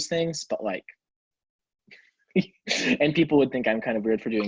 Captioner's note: chuckles